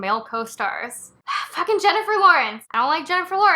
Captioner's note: sigh